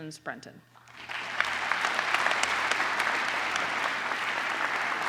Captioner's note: applause